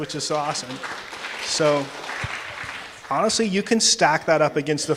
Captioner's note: audience applauding